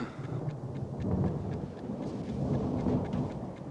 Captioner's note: thunder